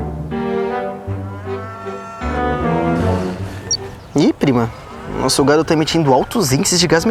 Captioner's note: mooing